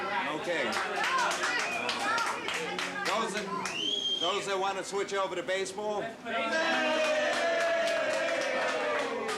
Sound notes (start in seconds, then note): 2.2 cheers and applause